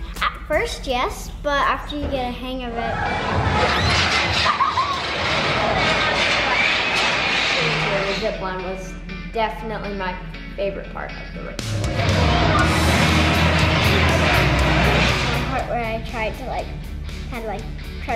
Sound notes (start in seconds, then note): 3.8 zipline clanging; 4.4 laughing; 5.8 zipline clanging; 11.6 upbeat music